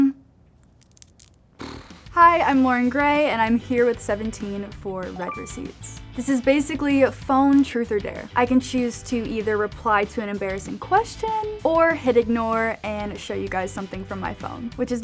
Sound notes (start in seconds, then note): 0.7 nails clacking; 1.6 Loren blowing raspberries